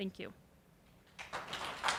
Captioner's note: applause